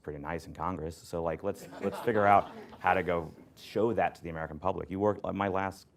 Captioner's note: laughter